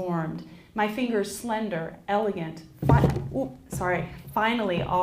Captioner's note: knocks into podium